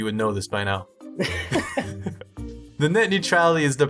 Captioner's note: both laughing